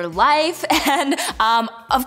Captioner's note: giggles